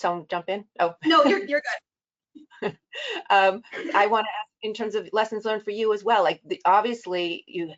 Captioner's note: laughs